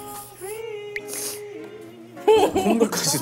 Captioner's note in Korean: 훌쩍